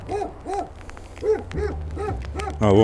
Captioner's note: dogs barking